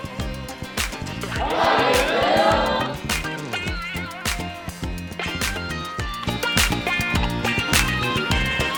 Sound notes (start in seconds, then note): 0.7 crowd; 3.4 bright upbeat music